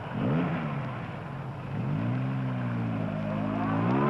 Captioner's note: engine revving